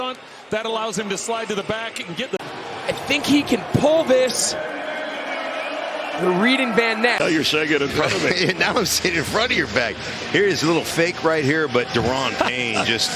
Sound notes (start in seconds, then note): 12.3 laughter